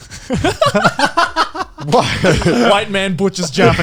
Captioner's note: both laughing